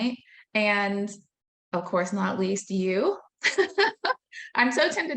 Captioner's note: laughing